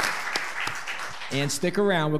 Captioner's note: audience applauding